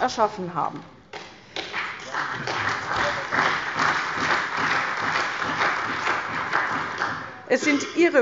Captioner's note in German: Beifall bei der CDU und dem BÜNDNIS 90/DIE GRÜNEN